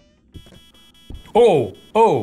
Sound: device beeping

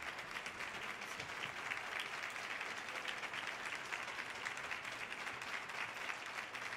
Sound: audience applause continues

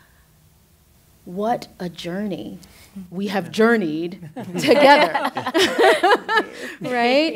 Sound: laughing

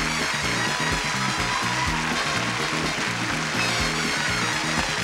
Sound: audience cheering; theme music

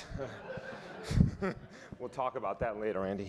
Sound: audience laughing

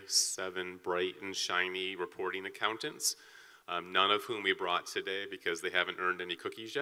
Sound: none

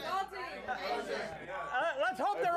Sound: audience shouts answers

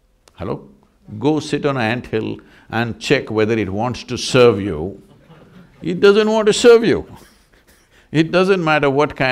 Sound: laughs

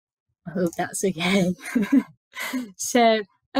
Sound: laughs

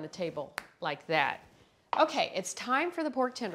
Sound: fingers snap

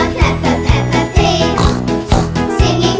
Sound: snort snort

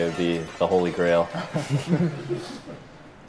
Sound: light laughter

